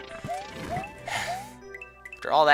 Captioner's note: exhaling